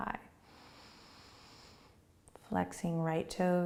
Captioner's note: inhaling